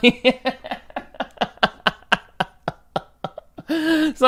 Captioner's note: laughing